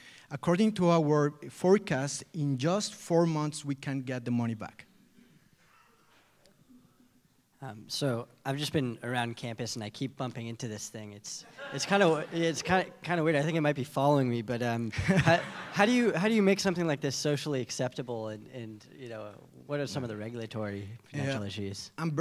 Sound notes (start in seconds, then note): 14.9 laughter